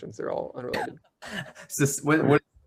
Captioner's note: chuckles